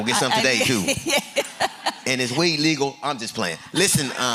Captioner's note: laughter; laughter